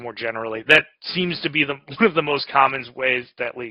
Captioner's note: laughs